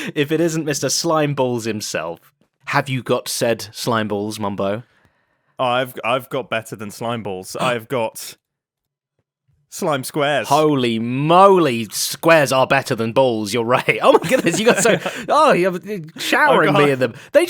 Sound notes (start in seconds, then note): 7.6 gasps